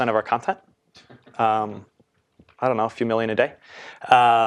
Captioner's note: laugh